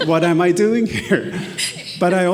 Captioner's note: attendees laughing; laughs